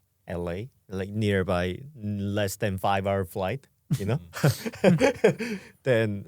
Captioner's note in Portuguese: risos